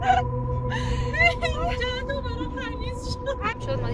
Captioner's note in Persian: صدای خنده سه تاییمون